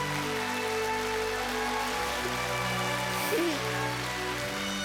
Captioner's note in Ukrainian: оплески